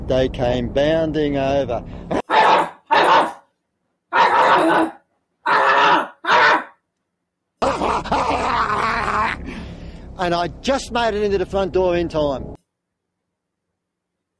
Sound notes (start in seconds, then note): 2.1 barking